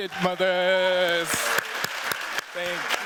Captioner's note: cheers, applause